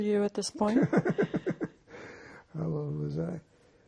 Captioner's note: laughing